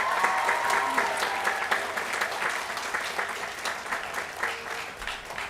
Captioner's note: applause